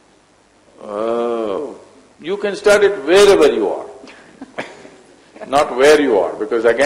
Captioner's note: laughs